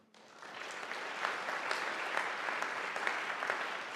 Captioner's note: audience applauding